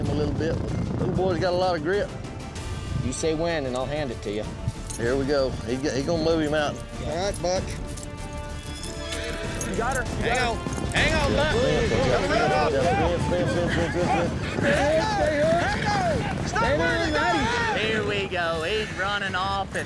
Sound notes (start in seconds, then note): 8.6 horse neighs; 11.9 bucking, cowboys shouting